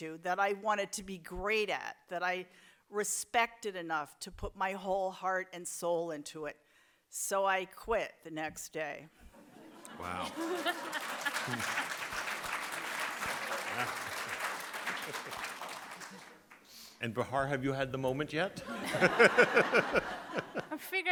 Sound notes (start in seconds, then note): 10.0 audience applauds; 18.6 audience laughs